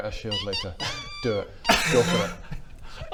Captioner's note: tormented squeaks